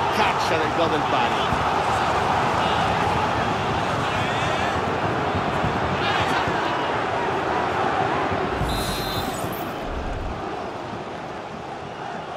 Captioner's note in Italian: Applauso